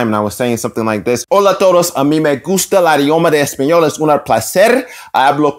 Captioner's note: Spanish